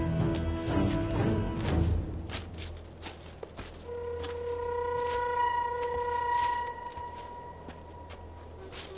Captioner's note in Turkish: Çalı Sesleri